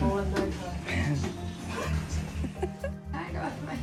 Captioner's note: group laugh